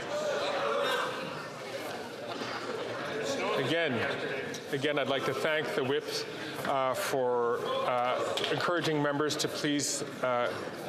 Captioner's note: chatter